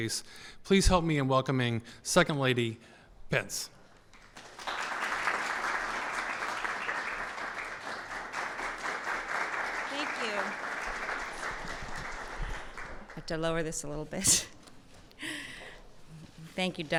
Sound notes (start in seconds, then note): 4.1 applause